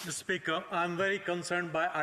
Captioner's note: speaking French